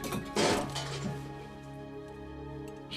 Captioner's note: metal crashing